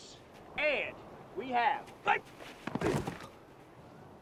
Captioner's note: groans